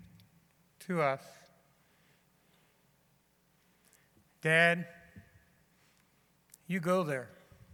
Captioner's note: none